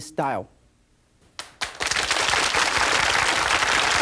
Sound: applause

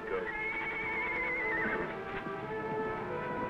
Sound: horse neighs

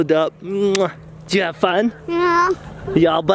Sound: kiss

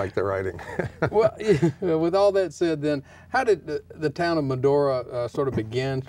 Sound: laughing

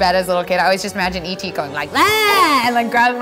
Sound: screams

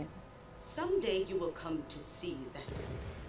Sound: weapons blasting

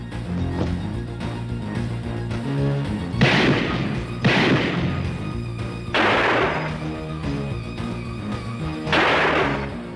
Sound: gunshots

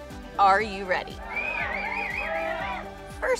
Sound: cheering

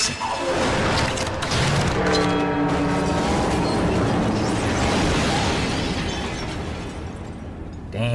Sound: explosion sounds

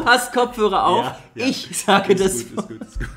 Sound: laughs

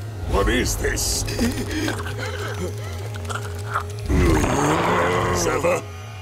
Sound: groaning

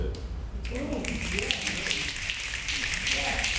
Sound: snapping

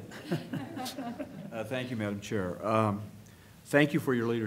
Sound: laughter

